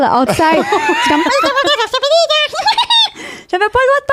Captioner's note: in french; squirrel sounds; in french